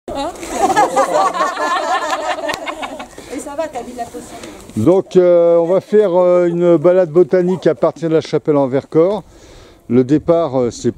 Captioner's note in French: Laughs